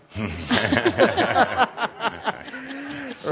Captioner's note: much laughter